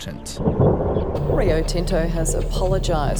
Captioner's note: rumbling